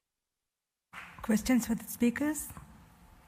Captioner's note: applause